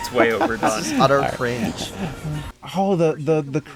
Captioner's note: laughs at the fake sky diving